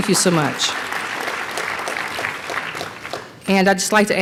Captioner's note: applause